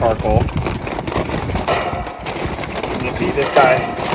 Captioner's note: crackling continues; metal clanking